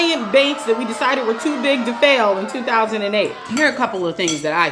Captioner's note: jeering crowd